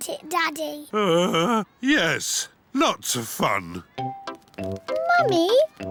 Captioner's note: groans